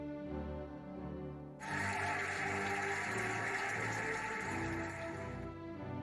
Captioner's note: cheering and applauding